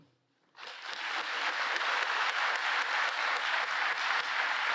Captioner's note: audience applauding